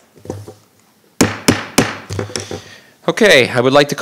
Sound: gavel banging

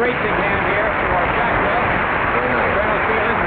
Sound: audience applause

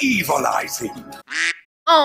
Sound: quack

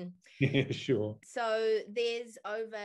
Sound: chuckles

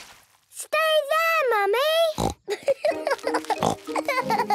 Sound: laughing

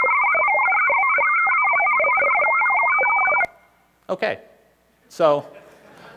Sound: modem shrieking with bubbling interference

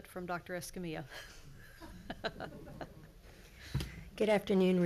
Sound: chuckles

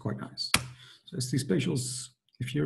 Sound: clicks

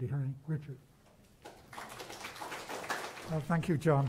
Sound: applause

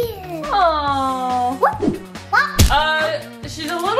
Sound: air whooshing

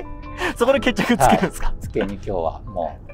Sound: laughing

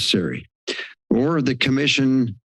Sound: inhales

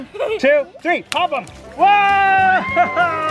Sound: splashing

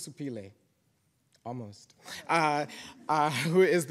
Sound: audience chuckling

